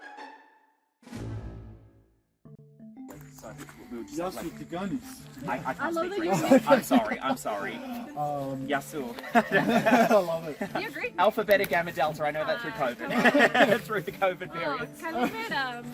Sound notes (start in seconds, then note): 4.0 speaking Greek